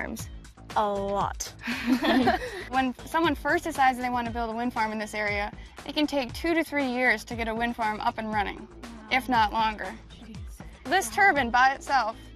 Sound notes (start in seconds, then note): 1.6 all laugh